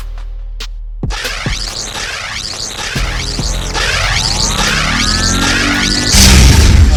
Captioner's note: electrical buzzing; siren blaring